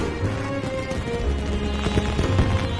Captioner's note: fireworks